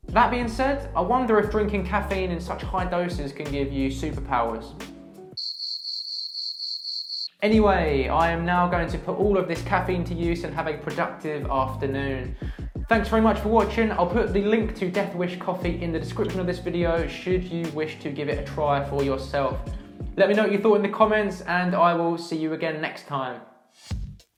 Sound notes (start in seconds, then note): 5.4 crickets chirping